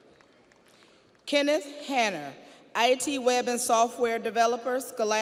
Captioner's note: audience applauds